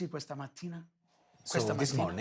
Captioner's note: speaking foreign language